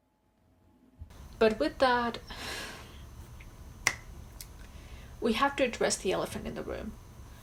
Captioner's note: sighs